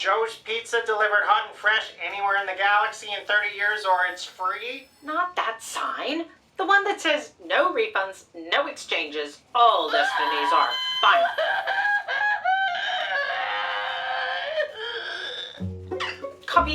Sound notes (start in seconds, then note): 11.4 wailing; 13.8 screwball music playing